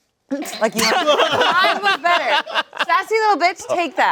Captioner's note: everyone laughing